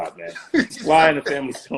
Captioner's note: laughing